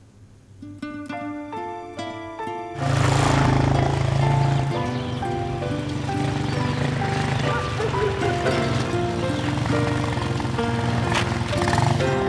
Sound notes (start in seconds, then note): 1.0 slow, dramatic music; 3.0 truck roaring; 5.3 motorcycle engine humming; 7.9 dog barking in distance